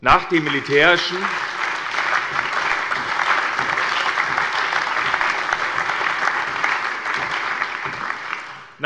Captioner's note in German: Allgemeiner Beifall